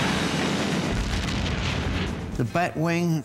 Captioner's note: explosion